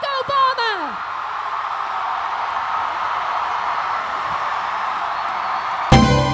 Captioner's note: cheers